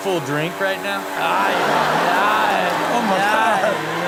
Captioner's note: audience laughs